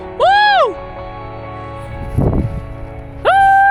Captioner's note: speaking gibberish; whooping